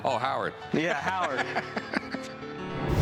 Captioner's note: laughs